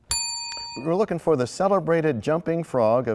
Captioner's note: bell rings, time expires